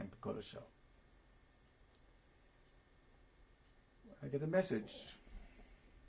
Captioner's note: pauses for 3 seconds